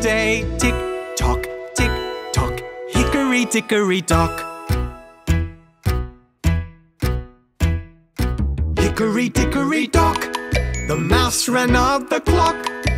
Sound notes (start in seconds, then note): 5.8 clock ticking